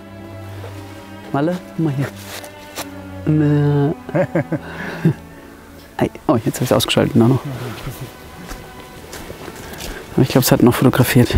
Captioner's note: laughs